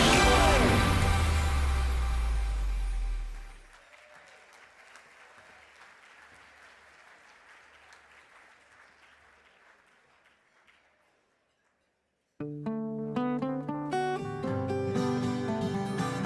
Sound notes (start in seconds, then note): 5.2 audience clapping; 12.5 native Hawaiian music